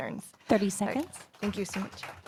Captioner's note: applause